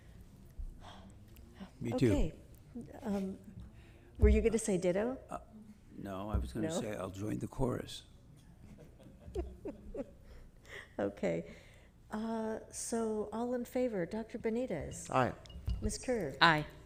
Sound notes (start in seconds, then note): 8.5 laughter